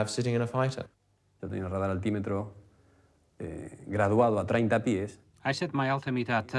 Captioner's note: man speaking in foreign language